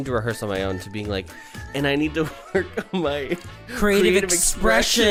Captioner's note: giggling